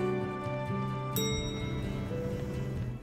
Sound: ding!

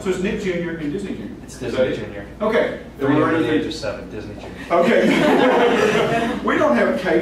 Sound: laughter

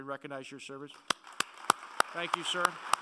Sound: applauding

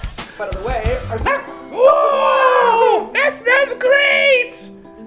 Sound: Spudgy barks; In Spudgy's voice

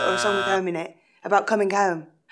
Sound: buzzer

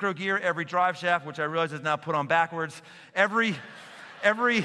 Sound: laughter

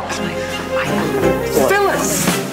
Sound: whispering

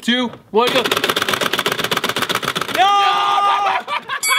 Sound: game clacking; laughing; bell dinging

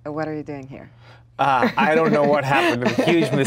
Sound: Gal laughs

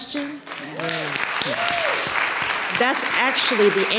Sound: audience applauding

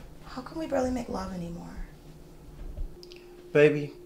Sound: lips smacking

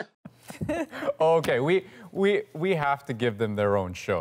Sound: laughter

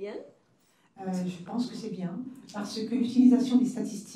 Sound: speaking french

